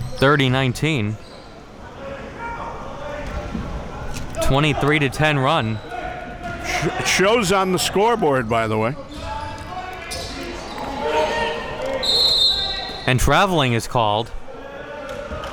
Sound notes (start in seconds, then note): 11.8 coaches yelling; 12.0 whistle blowing